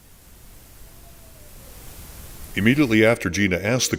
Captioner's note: faint Voice